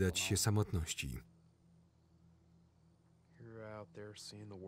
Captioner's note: crickets chirping